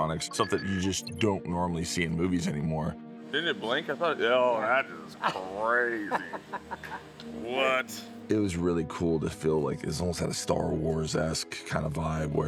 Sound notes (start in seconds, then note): 6.4 crew member chuckles